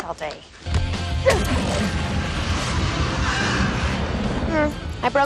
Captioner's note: killing vampire sounds